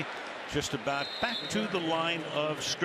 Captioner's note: whistle